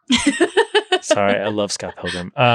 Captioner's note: laughing